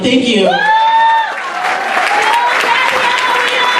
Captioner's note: audience cheers